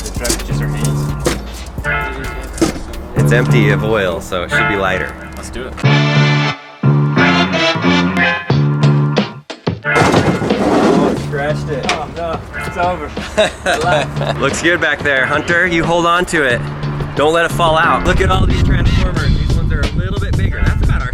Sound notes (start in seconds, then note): 13.0 laughs